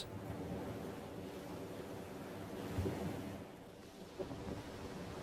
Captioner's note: waves lapping